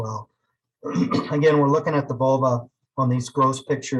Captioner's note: clears throat